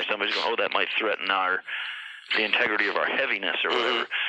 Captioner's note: growls